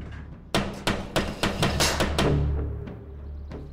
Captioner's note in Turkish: Kapı Çalıyor